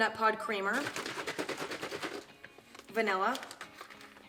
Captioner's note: liquid sloshing